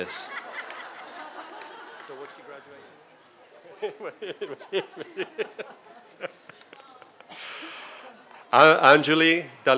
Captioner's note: laughter